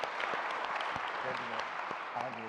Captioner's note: applause